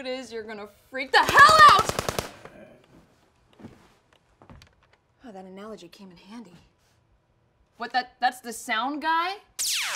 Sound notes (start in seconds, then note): 1.3 gunfire